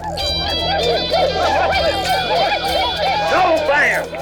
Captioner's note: rallying cries